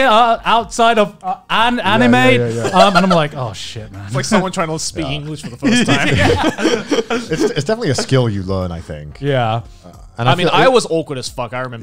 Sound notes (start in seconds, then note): 5.0 laughs